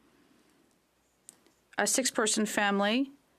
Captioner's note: speaking French